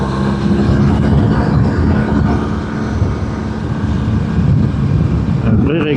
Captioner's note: engine